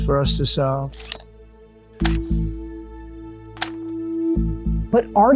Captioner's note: clicking